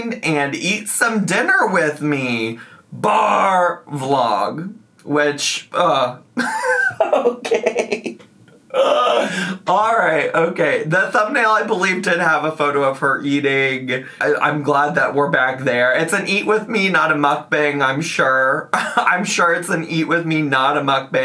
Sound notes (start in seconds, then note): 5.7 groans; 6.4 laughs